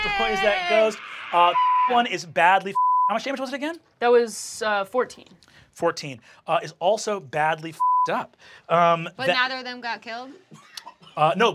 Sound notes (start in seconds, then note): 1.4 beep; 7.8 beep